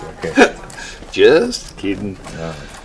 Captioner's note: pair chuckles; Chuck mutters